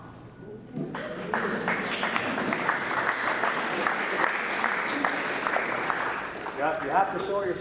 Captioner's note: applause